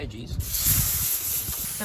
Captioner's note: sizzling